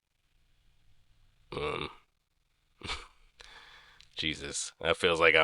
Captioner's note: scoff